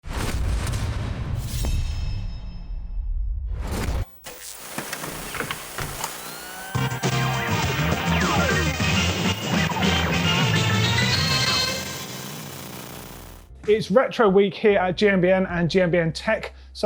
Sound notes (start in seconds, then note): 4.4 VCR & radio noises; 8.7 retro music